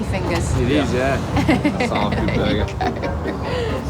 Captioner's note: laughs